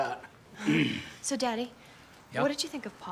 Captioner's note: clears throat